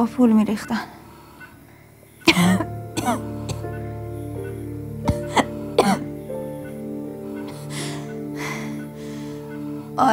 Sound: coughing

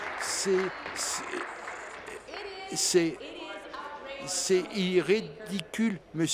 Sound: applause

